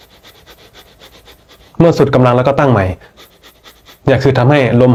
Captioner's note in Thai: เสียงหอบ